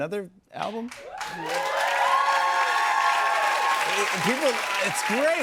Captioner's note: cheers and applause